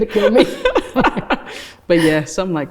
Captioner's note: laughs